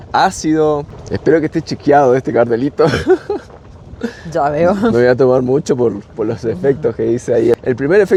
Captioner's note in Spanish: risas